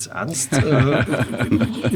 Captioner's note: laughter